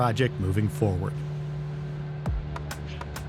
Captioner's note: large vacuum sound; upbeat music